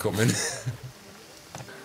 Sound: he laughs

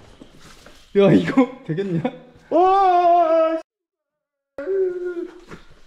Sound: screaming!!!

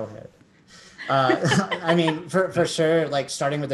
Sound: laugh

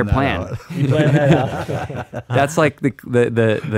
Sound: laughing

